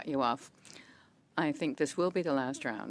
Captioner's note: speaking French